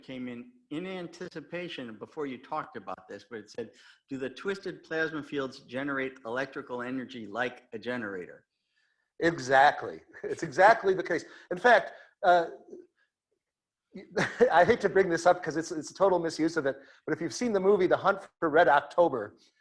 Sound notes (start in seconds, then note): 10.1 laughs